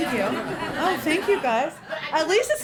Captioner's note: laughter